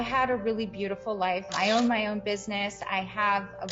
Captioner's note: camera shoots